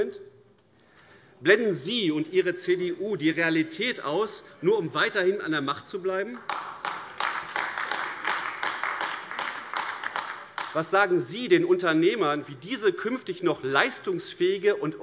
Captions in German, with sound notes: Blenden Sie und Ihre CDU die Realität aus, nur um weiterhin an der Macht zu bleiben? [Beifall AfD] Was sagen Sie den Unternehmern, wie diese künftig noch leistungsfähige und